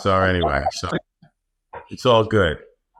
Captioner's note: laughs